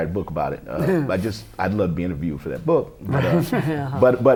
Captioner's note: laughter